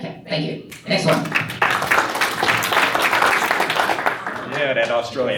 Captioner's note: applause